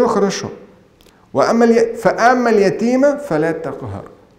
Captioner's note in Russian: Говорит на арабском